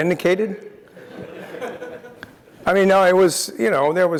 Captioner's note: laugh